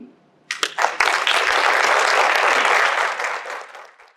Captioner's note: applause